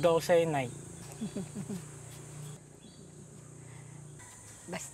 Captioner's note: laughing